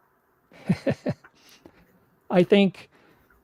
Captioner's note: laughing